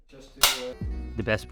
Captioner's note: snap